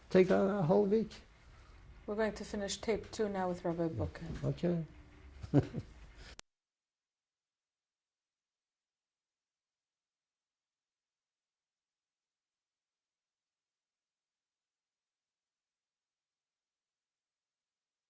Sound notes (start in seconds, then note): 5.4 laughs